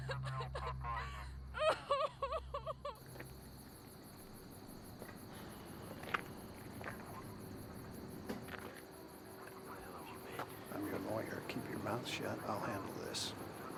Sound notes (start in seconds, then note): 0.0 Nikki sobbing; 3.3 insects chittering